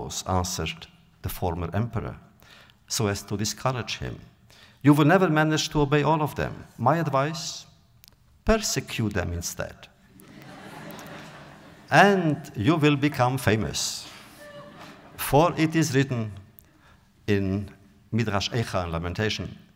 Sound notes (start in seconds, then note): 10.1 audience laughter